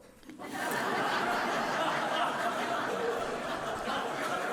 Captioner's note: audience laughing